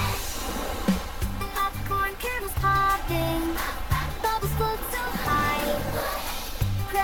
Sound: splash, splash, splash!; pop, pop!; whoosh!

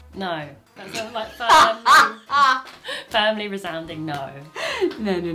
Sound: laughing

